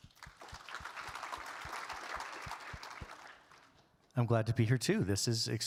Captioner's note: audience claps